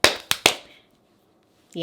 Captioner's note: slaps